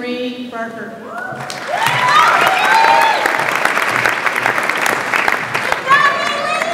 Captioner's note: audience applauds and cheers